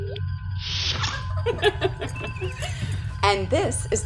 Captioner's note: laughter